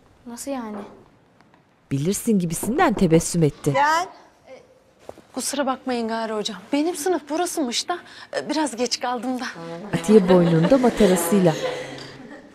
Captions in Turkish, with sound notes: Nasıl yani? (Kapı vurulma sesi) Gel. Kusura bakmayın gari hocam. Benim sınıf burasıymış da... ...biraz geç kaldım da. (Gülme sesleri)